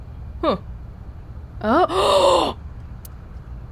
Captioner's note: gasps